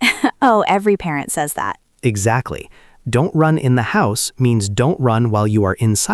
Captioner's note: laughs